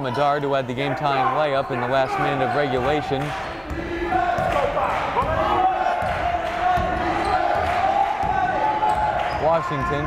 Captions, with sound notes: Paul Medard who had the game time lay-up in the last minute of regulation. (yelling)